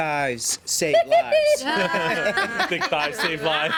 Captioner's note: everyone laughs